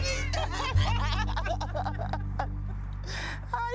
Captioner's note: laughing